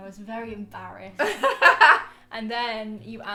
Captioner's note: laughs